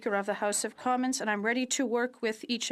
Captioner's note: speaking french